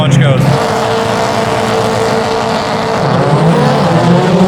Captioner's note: engine noise